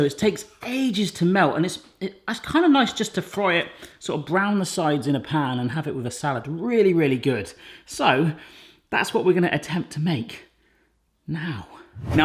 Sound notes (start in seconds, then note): none